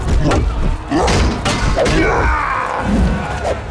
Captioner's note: screams